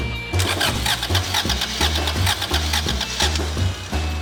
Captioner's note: rock music; car turning over